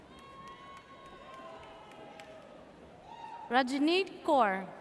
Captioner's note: audience cheers